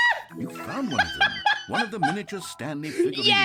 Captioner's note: laughs